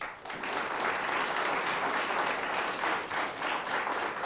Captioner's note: audience applauds